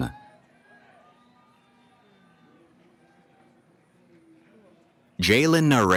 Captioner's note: cheering